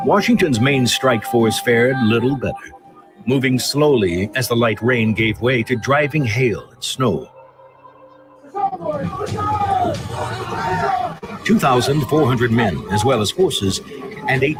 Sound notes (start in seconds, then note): 8.4 men yelling